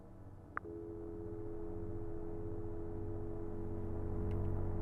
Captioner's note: dial tone buzzing; menacing electronic music